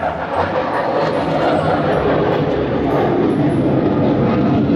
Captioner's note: airplane whooshing